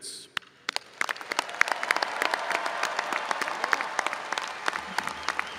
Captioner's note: audience cheering and applauding